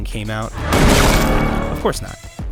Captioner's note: gunshot